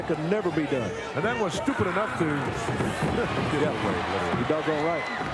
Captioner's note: speaks faintly